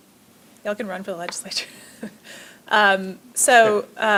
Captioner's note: laughs